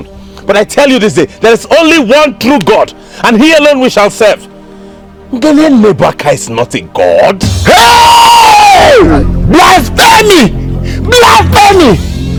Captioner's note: screaming